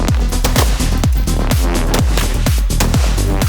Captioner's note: guns firing